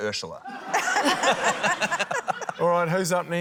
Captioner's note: laughter